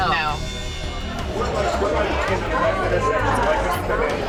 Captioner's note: background chatter